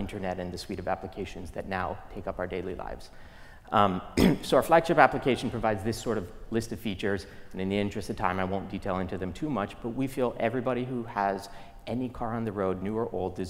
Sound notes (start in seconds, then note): 4.1 cough